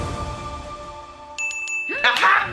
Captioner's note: ding ding ding